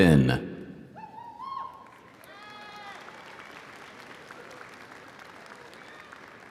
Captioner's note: audience cheering; audience applauding